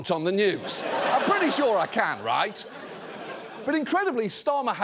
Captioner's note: audience laughs